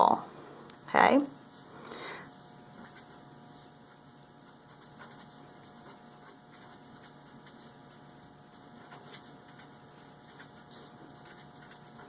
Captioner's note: writing sounds